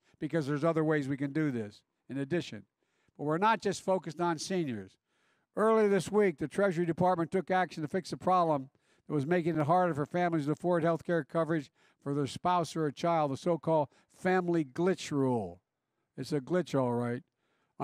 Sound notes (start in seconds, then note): none